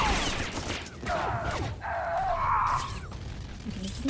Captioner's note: gunfire; humming